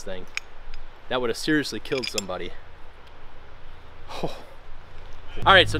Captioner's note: scoffs